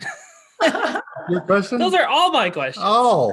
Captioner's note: everyone laughs